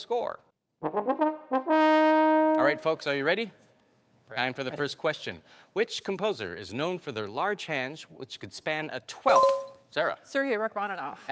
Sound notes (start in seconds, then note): 0.3 trombone music; 9.3 bell dinging